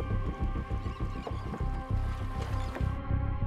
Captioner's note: seagulls